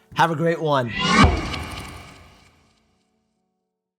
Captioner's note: whoosh